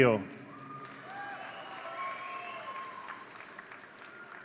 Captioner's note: audience cheering